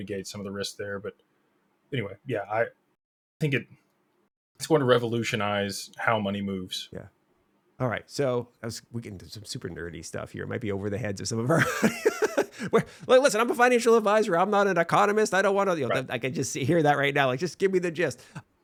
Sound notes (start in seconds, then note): 11.6 laughs